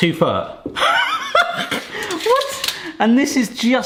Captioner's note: laughs